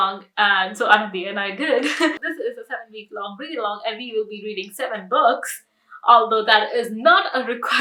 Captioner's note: giggles